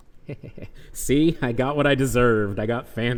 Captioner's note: laughs